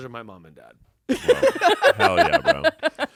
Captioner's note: everyone laughs